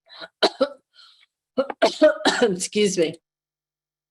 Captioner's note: coughs